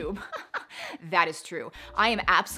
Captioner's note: laughing